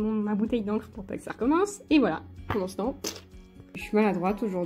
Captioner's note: pouik